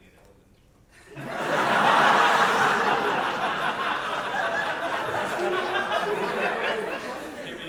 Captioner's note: big audience laugh